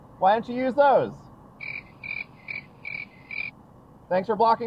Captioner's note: crickets